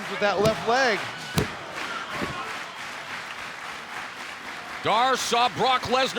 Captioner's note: crowd clapping